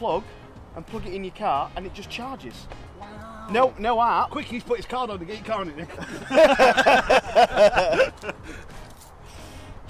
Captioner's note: laughing